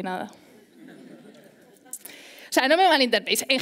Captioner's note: laughter